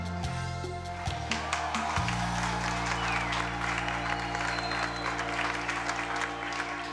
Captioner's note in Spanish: aplausos